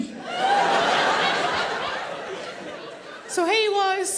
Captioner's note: audience laughing